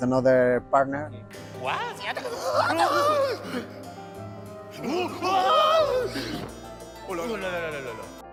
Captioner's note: foreign